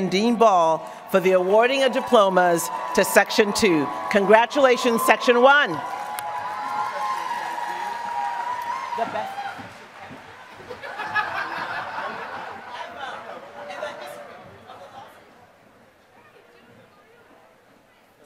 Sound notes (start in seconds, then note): 10.3 applause; 12.8 laughter